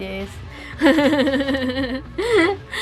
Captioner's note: chuckles